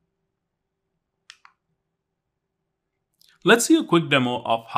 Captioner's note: remote clicking